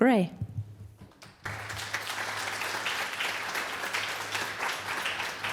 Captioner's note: applause